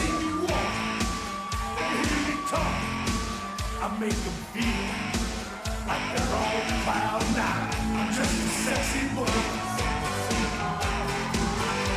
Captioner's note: crowd cheering